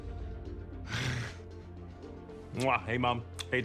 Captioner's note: kissing